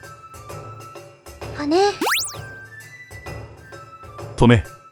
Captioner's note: upward brushstroke